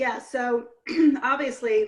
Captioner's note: clears throat